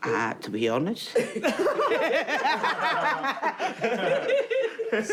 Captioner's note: laughing